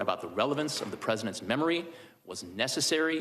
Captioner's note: HABLA EN INGLéS